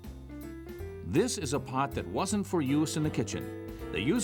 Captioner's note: voiceover